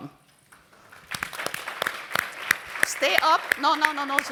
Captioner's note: applause